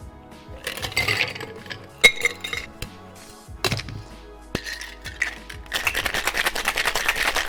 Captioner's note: glass tinks; metal clacks